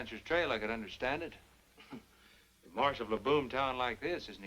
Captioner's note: chuckles